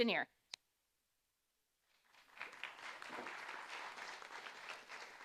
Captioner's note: audience applauding